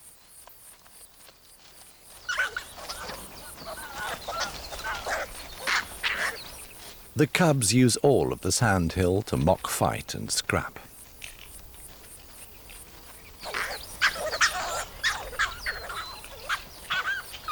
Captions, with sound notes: [pups squealing] The cubs use all of the sand hill to mock fight and scrap. [pups yelping]